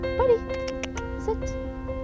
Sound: makes kissing sounds

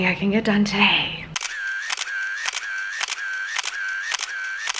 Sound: camera snapping

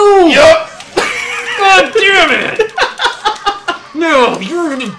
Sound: laughs

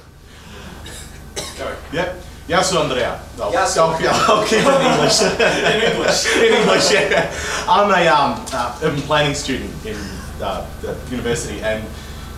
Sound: laughter

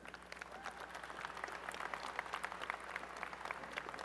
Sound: applause

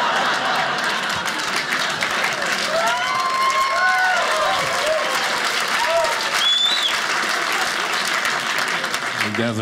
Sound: audience laughing; audience cheering

